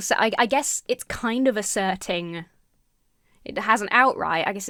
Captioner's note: none